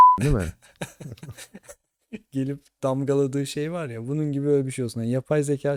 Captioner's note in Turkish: kahkaha